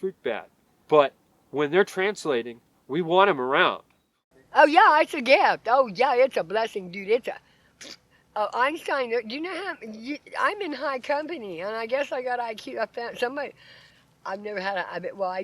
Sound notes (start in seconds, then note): 6.9 blows raspberry